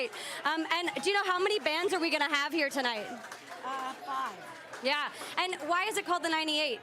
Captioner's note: laughter